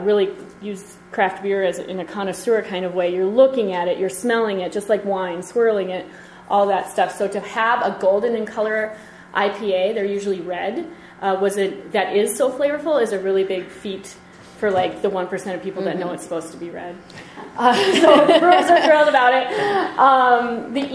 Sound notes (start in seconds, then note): 17.6 laughter